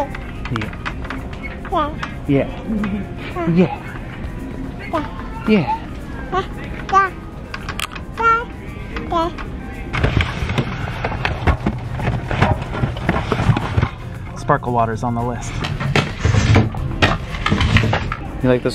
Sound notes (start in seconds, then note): 9.9 object clattering; 15.7 object thudding